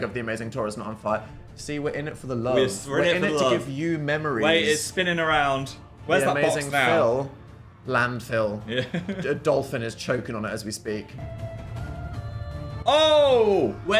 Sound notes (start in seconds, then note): 8.7 Phil laughs; 11.1 intense mysterious music